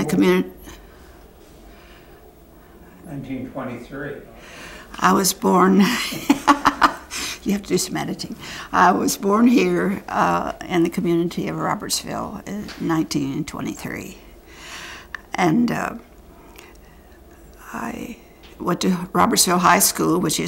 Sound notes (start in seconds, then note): 5.9 laughter